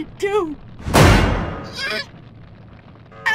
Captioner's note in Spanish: bam